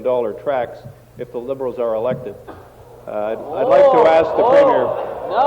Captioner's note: some Applause